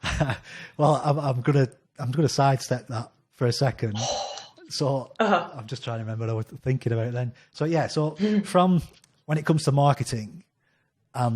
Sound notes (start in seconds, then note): 0.0 laughs; 4.0 sighs